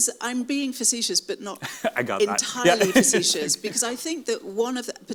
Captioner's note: laughs